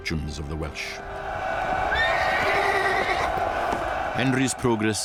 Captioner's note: crowd cheering; horse neighing